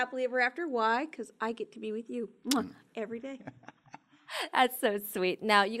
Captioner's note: muah